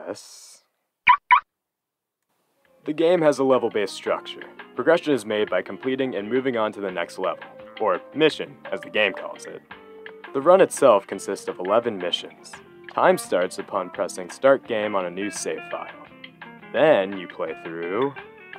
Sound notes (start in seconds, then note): 1.0 Jammy Dodger makes car locking beep sounds